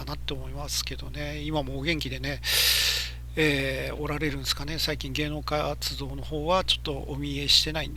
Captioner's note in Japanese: 息をのむ音